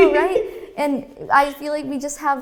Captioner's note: laughing